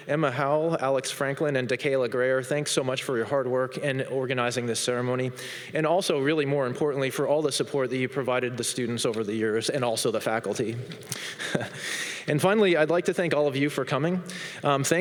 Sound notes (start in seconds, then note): 10.8 laughs